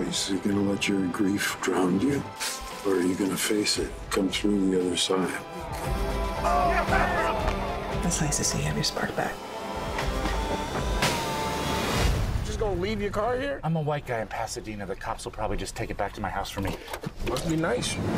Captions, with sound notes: Are you gonna let your grief drown you, or are you gonna face it and come through the other side? [cheering] It's nice to see you have your spark back. You're just gonna leave your car here? I'm a white guy in Pasadena. The cops will probably just take it back to my house for me. Must be nice.